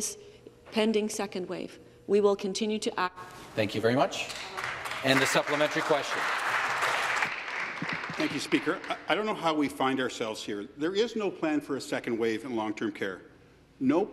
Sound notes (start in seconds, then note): 8.6 some Applause